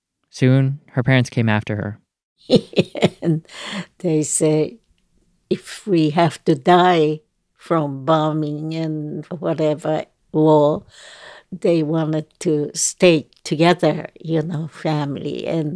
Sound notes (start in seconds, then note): 2.5 laughter